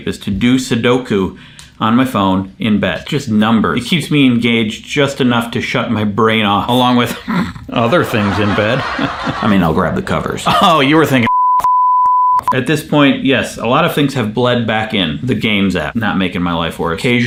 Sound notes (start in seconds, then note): 7.7 crowd laughs; 11.2 beep